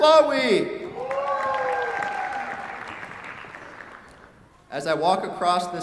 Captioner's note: cheers, applause